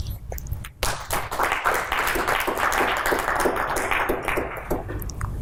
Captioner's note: audience applauding